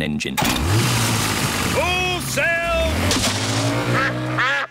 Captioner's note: engine starts